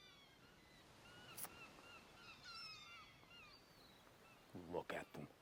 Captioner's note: seagulls cawing